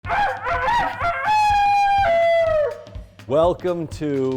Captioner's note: imitates rooster crow